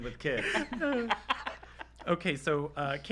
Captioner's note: laughter